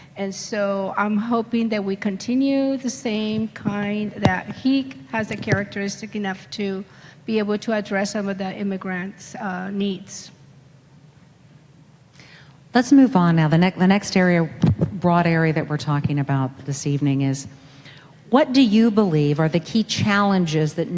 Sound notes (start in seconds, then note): none